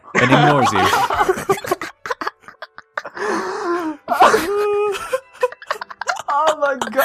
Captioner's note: laughing